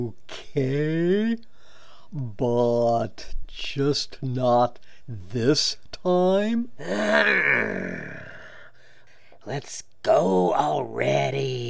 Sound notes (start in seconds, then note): none